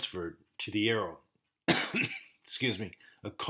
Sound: coughing

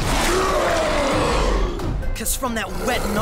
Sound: roars

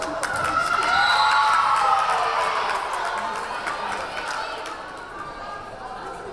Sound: crowd cheering; whistle blaring

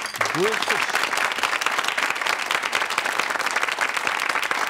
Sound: audience applauding

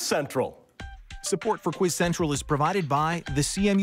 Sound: voiceover

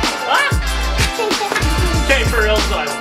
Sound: giggles

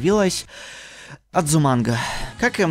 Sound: a deep breath

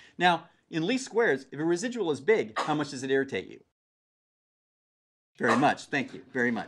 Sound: cough

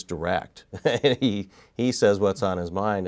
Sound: laughs

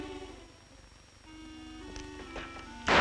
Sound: gunshots

